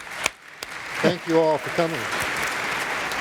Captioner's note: applause